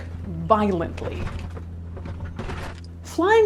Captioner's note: plane clattering